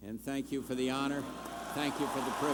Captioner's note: cheers/applause